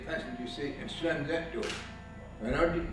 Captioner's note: door slams